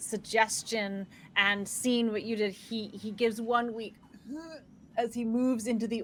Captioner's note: groans